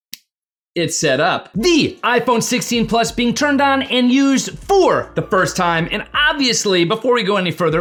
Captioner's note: fingers snap